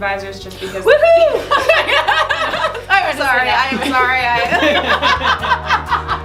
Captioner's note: laughs